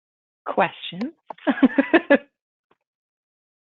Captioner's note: laughs